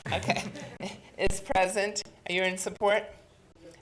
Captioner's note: chuckling